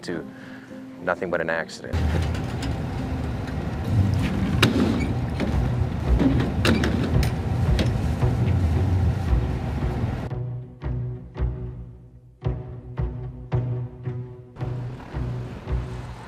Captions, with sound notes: to nothing but an accident. (somber music) (motor rumbling) (suspenseful music)